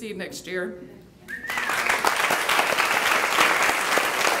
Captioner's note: clapping